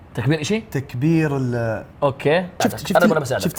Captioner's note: insects trilling